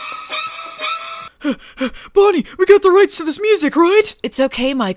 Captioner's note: pants